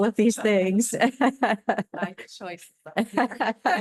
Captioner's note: laughter